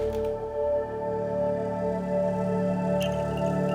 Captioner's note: creaking